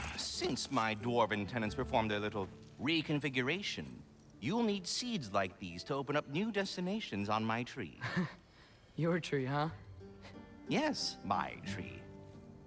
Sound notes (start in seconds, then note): 8.0 laugh